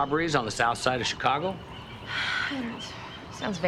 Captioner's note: sighs